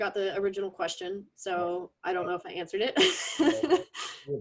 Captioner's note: laughs